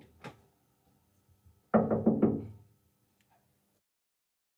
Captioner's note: knocking on window